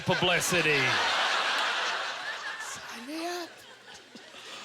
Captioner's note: audience laughter